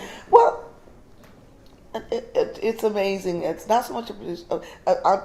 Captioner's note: stutters